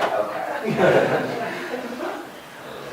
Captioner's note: laughter